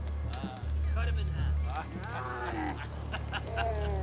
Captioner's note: laughing